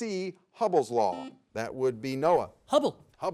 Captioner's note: buzzer beeps